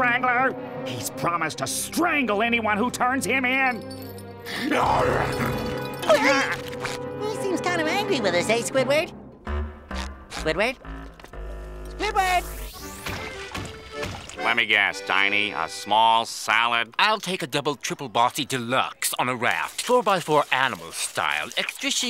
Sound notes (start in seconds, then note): 4.6 growling